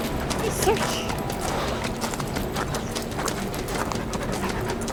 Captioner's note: footsteps; dog panting